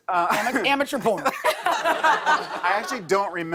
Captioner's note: laughter